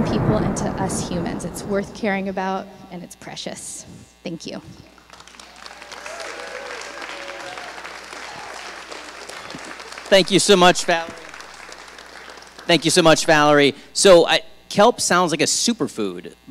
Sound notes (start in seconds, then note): 0.0 thunder booming; 5.0 audience applauding